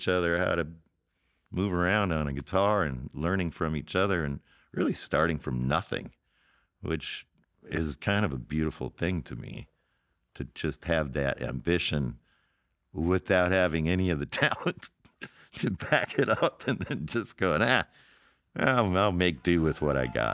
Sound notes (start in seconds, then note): 15.1 laughing